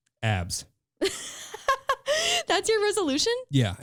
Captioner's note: laughing